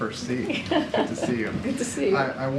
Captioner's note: laughs